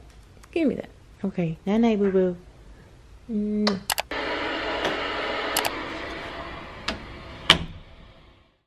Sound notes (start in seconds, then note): 3.5 smacking; 3.8 clicking